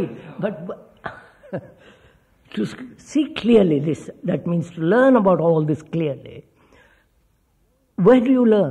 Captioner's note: laughs